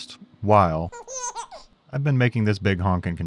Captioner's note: baby giggling